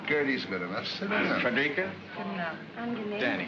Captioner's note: women greet in German